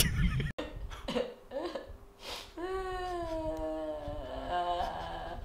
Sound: crying

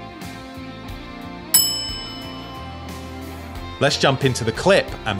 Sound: bell dings

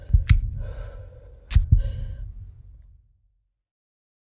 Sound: gun clicking

